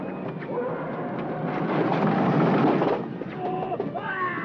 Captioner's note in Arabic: صوت طقطقة عالي; صرخات الجندي